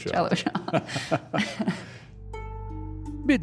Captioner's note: chuckling